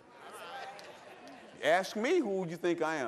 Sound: laughter

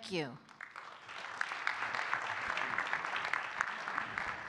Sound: audience clapping

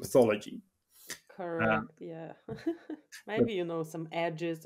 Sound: laughs

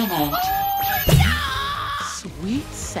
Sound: screaming

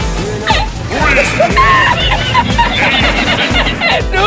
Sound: risitas laughs

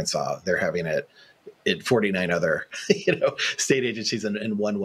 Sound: laughs

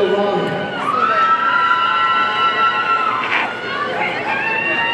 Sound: audience cheering

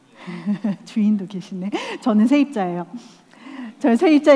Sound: laugh

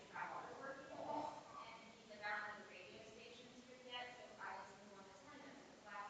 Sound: people chattering distantly continues

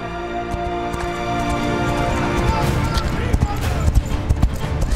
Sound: horses gallop; Kah'Nath continue to shout out

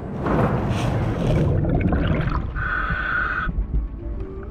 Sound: water bubbling

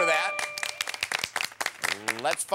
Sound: applause

